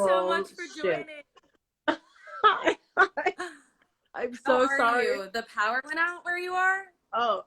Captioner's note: laughs